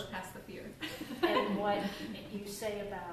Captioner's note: laughs